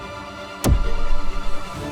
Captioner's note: zap